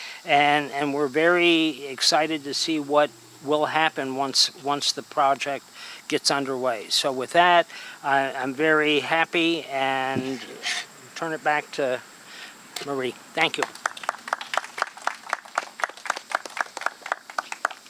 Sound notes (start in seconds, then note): 13.4 audience clapping